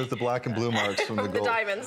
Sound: laughter

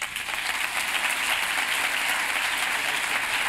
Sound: applause

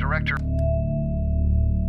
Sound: click

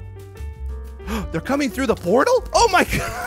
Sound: gasps; both laugh

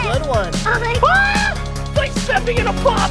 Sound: screams

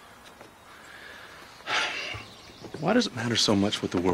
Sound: Jim sighs

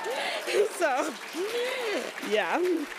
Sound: laughs; applauds; cheers

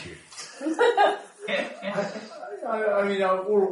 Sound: laughter

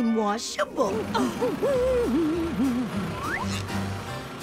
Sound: humming; laughing

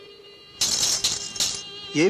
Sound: bangles clinking

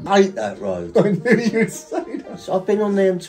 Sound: laughing

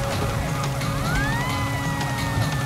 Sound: siren playing

